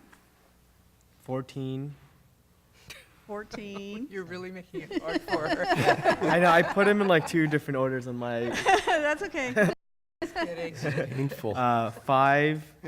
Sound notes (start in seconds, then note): 8.3 laughter